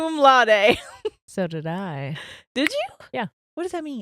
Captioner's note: chuckles; clicks tongue